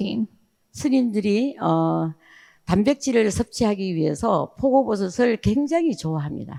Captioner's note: speaking in foreign language